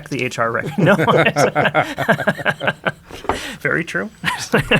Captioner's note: laughing